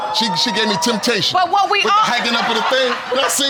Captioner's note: audience laughing